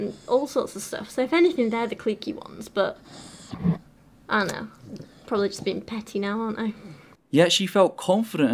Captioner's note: sigh